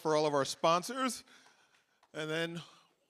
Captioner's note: applause